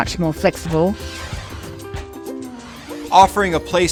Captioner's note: logo whooshing